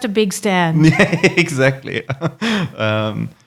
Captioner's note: laughing